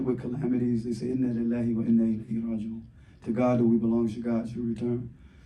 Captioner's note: speaking arabic